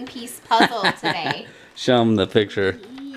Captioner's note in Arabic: يضحك